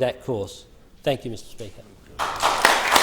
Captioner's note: applause